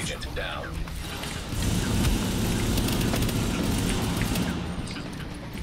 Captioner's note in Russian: беглый огонь